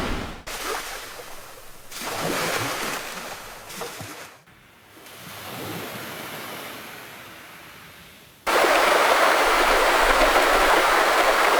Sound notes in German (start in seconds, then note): 4.9 Strandgeräusch; 8.4 Flussgeräusch